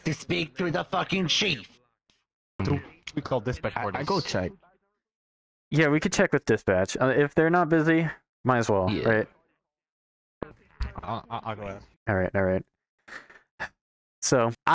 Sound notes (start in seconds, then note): 13.1 sigh